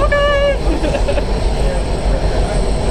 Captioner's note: laughs